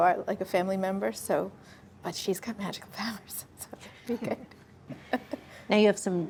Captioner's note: laughs